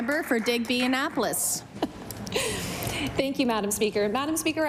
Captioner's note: applause